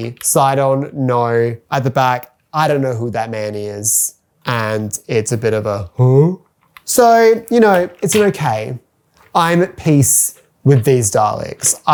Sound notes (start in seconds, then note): 5.7 confused Sound